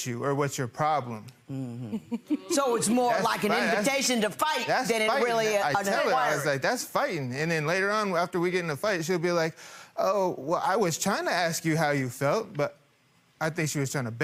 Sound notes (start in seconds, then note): 1.7 laughing